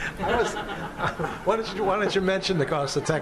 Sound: laughter

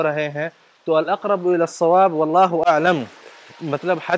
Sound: Arabic

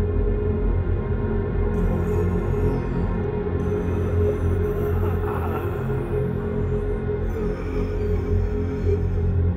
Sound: female moaning, gasping growls

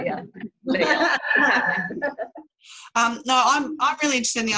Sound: laughter

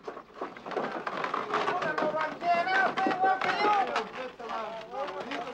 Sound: noise of cart

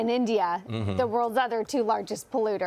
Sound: laughter

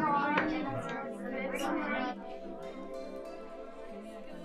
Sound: students chatter

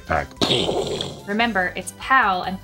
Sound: explosion

